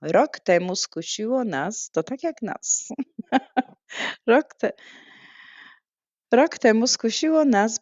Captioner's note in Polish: śmiech; wciągnięcie powietrza